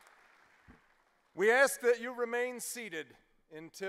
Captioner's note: applause